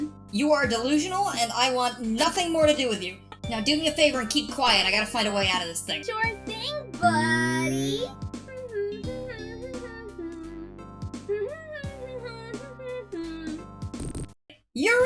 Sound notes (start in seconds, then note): 8.2 Buzz humming the Green Hill Zone theme